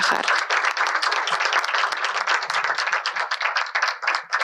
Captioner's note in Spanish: aplausos